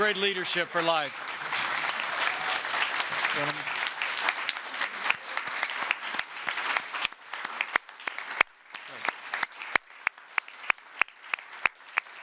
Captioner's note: applause